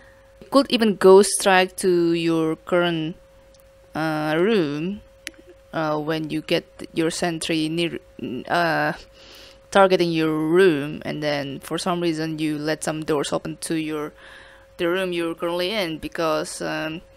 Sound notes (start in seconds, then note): none